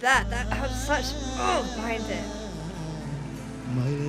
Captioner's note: grunting; audience cheering